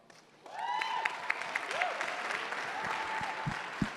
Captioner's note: audience cheering